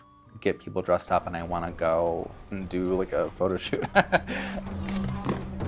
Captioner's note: laughs; swords bang against each other